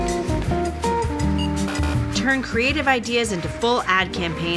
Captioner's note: scanner beeps; buzzing